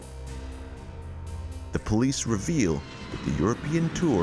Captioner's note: engine roaring